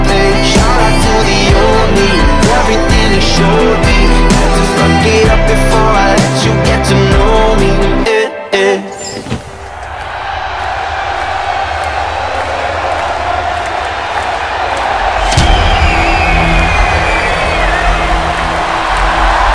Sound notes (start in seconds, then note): 10.5 audience cheers